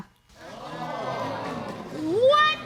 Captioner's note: audience exclaims